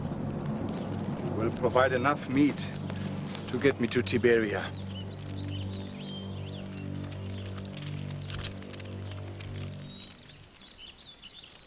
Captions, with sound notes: - You will provide enough meat to get me to Tiberia. (birds chirping) (fire crackling)